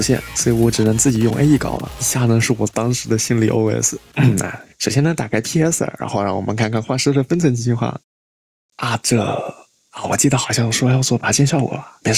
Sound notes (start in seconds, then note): 4.1 cough